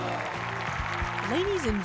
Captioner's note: applause